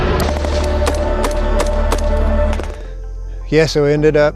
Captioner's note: guns shooting